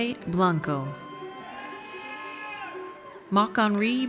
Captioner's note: audience cheers